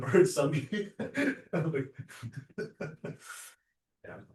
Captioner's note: laughter